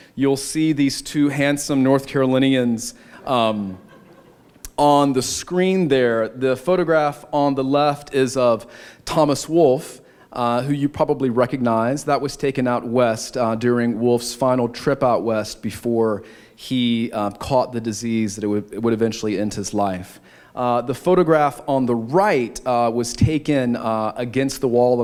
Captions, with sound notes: You'll see these two handsome North Carolinians... [laughter] ...on the screen there. The photograph on the left is of Thomas Wolfe, who you probably recognize. That was taken out West, during Wolfe's final trip out West before he caught the disease that would eventually end his life. The photograph on the right was taken against the wall